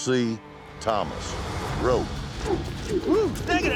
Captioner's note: ropes swirling through air